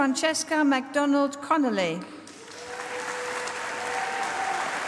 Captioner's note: applause